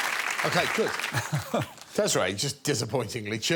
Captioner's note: Alex laughing